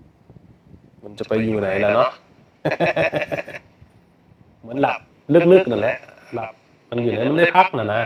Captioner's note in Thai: เสียงหัวเราะ